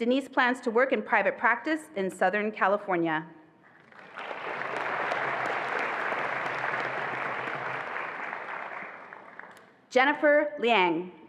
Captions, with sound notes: Denise plans to work in private practice in Southern California. (attendees applauding) Jennifer Liang.